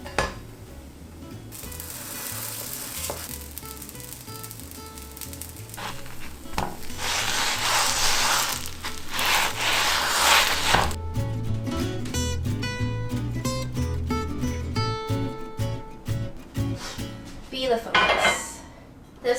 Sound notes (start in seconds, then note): 0.0 pan clangs; 1.7 dough sizzling; 5.1 dumplings scraping; 11.2 upbeat music; 17.9 plates clanging